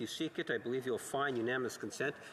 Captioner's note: speaking French